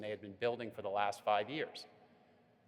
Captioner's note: none